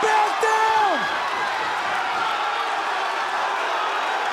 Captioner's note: crowd cheering